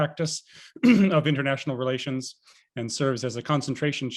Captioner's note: clears throat